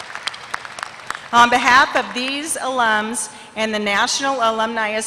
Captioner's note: applause